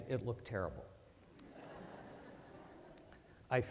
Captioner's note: laughter